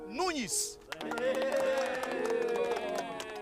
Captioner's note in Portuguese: todos aplaudindo